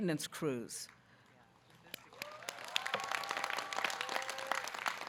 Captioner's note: applause